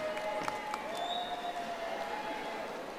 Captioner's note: audience applauding